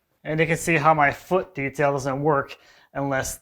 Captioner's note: none